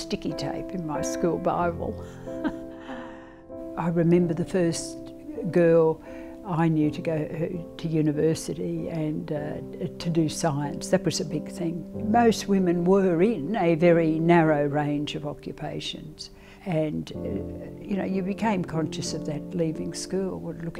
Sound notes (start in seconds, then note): 2.2 laughs